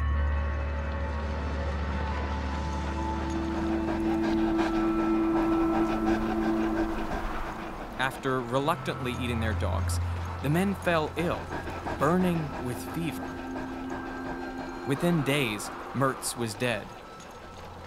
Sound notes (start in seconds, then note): 0.3 suspenseful music; 3.5 dogs panting